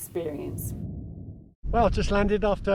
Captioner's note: air whooshes